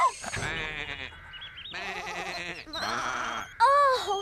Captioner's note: sheep Bleating